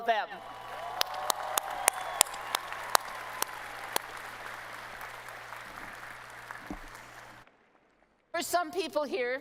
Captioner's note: applause